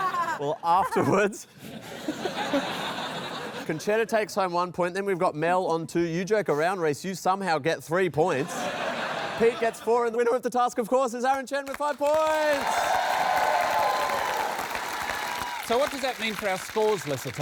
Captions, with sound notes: Well, afterwards... Concetta takes home one point. Then we've got Mel on two. You joke around, Rhys - you somehow get three points. Pete gets four. And the winner of the task, of course, is Aaron Chen with five points. (APPLAUSE) So, what does that mean for our scores, Lesser Tom?